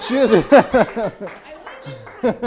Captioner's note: laughing